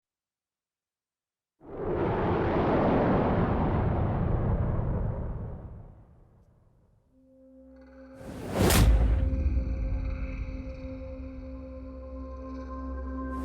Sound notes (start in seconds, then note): 1.6 wind howling; 7.2 sinister music; 7.5 dramatic noise